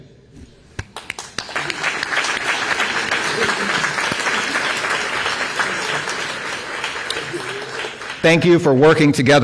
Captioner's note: applause